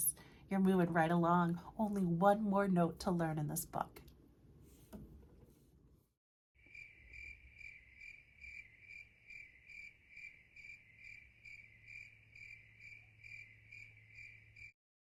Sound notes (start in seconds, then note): 6.6 crickets chirp